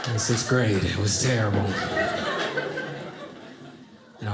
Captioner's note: audience laughing